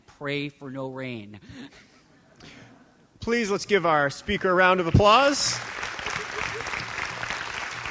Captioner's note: audience chuckles; applause